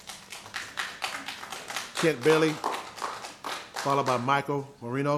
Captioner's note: applause